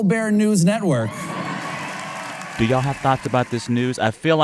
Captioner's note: applause